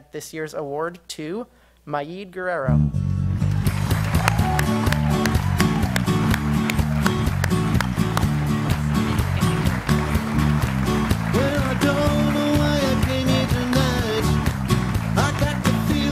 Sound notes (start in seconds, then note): 4.2 applause